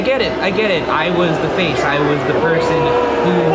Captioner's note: crowd jeering